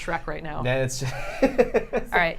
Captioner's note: laughs